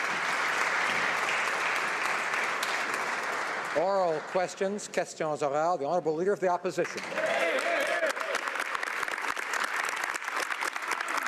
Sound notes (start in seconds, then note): 5.2 some Applause; 7.9 speaking French